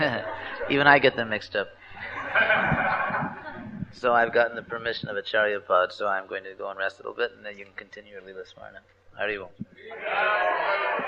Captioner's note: laughter